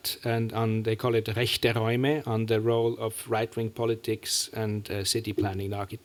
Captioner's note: german